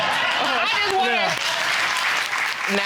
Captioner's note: laughter and applause